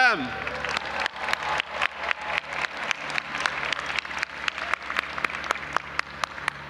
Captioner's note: audience applauding and cheering